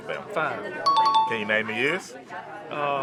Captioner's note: chime dings